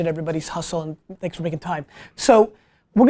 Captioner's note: none